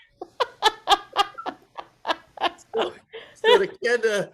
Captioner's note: laughs